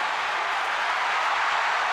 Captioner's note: crowd cheering